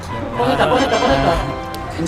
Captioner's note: ta-da